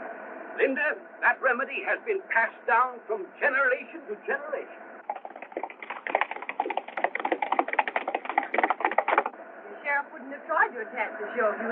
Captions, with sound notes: Linda, that remedy has been passed down from generation to generation. [horse galloping] The Sheriff wouldn't have tried to attack the show,